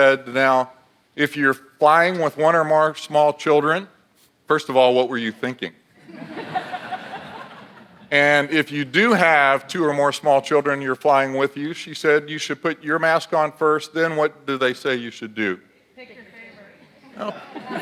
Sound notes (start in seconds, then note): 6.0 audience laughs